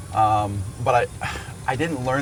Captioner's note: sighs